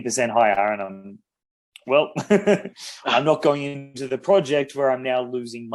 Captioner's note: BOTH laugh